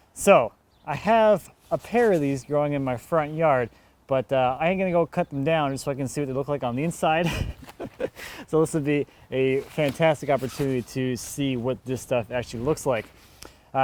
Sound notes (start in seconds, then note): 7.2 chuckling